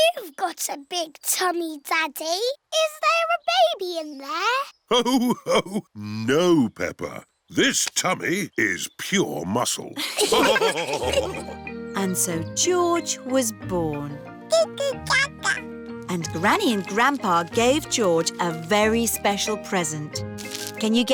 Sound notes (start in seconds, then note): 5.3 laughs; 10.0 all laughing